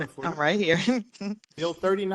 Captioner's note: laugh